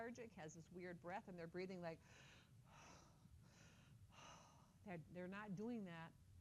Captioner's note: deep breathing